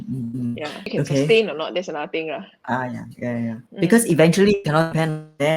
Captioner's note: speaking in foreign language